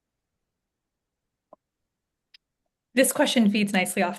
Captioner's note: silence